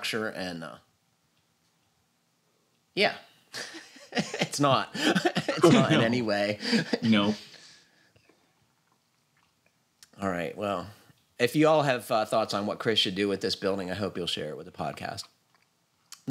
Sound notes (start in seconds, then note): 6.4 laughs